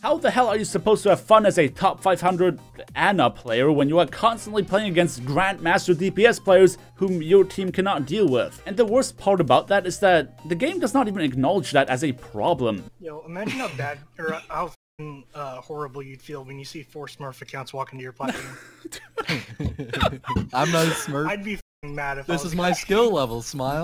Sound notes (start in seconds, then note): 18.2 suppressed Laughter